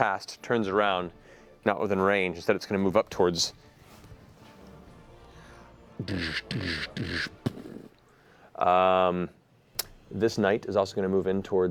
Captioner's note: heavy footsteps